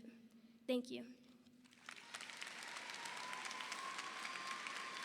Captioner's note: audience applauding